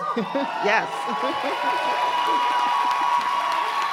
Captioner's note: cheers and applause